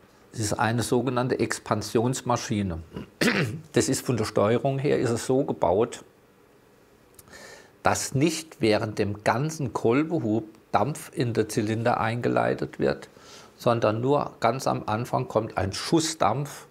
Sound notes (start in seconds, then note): 2.9 clears throat